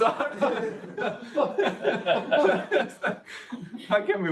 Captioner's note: audience laughs